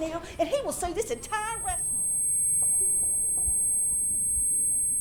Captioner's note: Justin ears humming